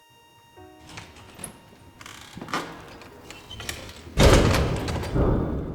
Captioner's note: door opening and closing